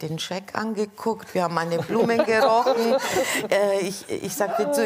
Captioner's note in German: Gelächter